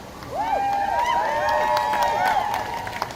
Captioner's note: crowd cheering